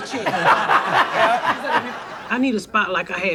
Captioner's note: audience laughs